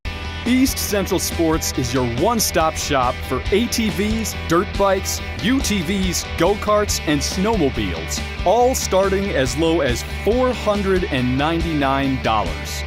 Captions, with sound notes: (upbeat music) - [Voiceover] East Central Sports is your one-stop shop for ATVs, dirt bikes, UTVs, go-karts, and snowmobiles, all starting as low as $499!